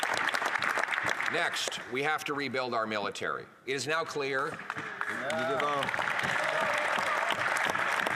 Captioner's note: applause